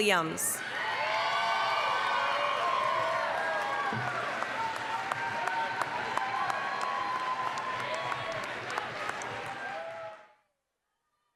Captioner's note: applause, cheering